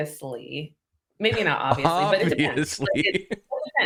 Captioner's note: laughter